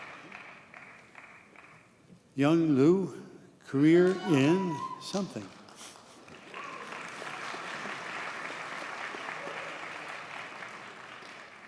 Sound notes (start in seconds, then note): 6.2 audience cheers and applauds